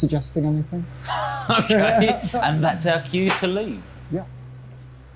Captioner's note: they laugh